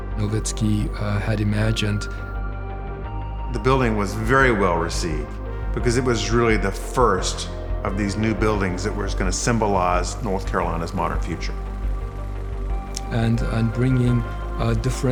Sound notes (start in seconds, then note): none